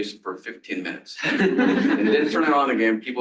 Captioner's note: laughter